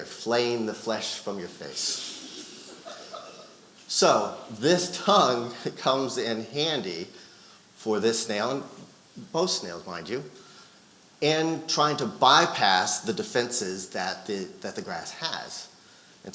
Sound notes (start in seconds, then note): 1.9 audience laughing